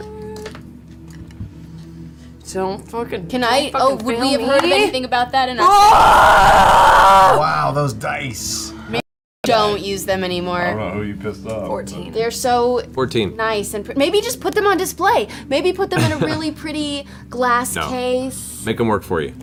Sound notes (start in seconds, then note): 5.6 yells wordlessly